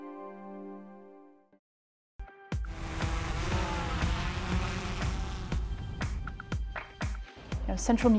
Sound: buzzing Drone Sounds

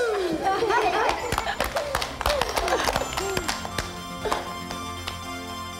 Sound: everyone claps

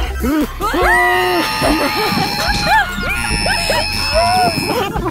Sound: screaming; laughing

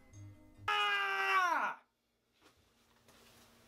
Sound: screams

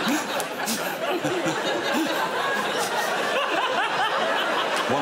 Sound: laughter

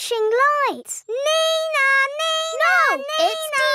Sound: imitates siren

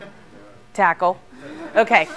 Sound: laughter

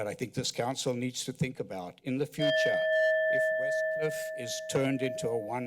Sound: bell sound

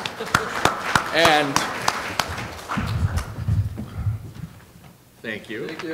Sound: applause

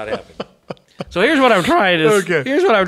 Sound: laughs

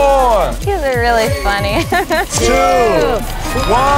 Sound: laugh

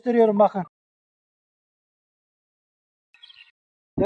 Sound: bird sounds

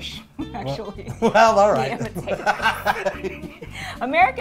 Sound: laughs

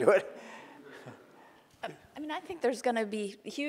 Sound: laughing

